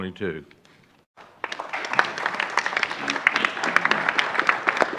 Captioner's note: applause